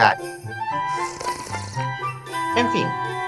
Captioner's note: slurp